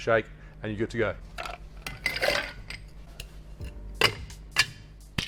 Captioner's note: ice clinks; thuds